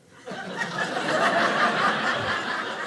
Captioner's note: audience laughing